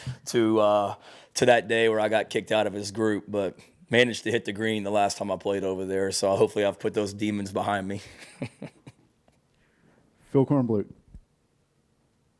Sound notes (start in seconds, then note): 7.9 laughs